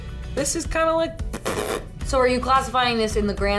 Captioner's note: blowing raspberry